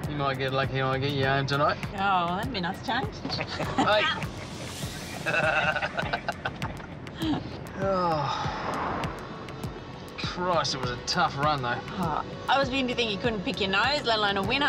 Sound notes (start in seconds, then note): 3.3 all laughing; 7.1 sighs